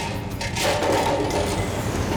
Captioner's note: clattering